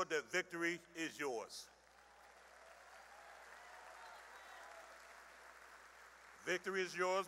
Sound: cheering and applause

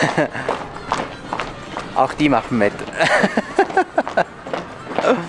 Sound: laughs

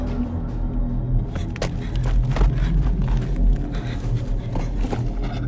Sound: heavy breathing

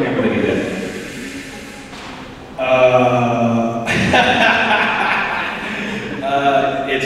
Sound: laughing

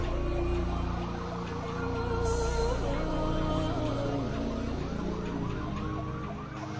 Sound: sirens

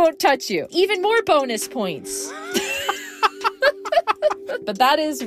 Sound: both laughing

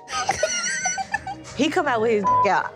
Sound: girls cackling

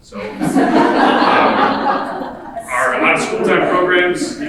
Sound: audience laughing

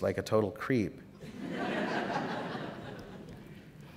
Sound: laughter

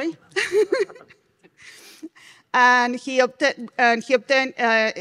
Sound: laughing

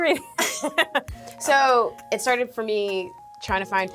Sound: laughs

